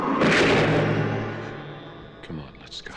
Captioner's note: loud crashing